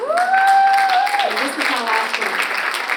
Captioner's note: audience applauds